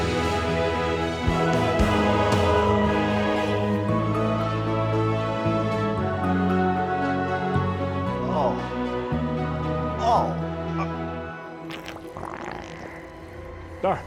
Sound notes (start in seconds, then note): 0.1 triumphant music; 8.7 Walter groans; 12.2 eerie music